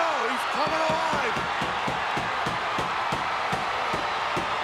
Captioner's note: hand pounding